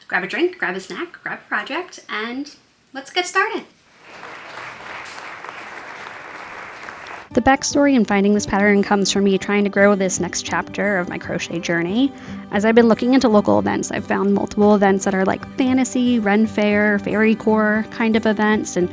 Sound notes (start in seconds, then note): 3.9 audience clapping